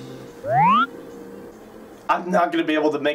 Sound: Super Mario 64 camera zoom

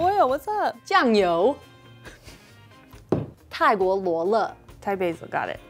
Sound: speaking in mandarin

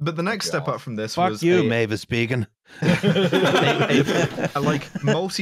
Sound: laughter

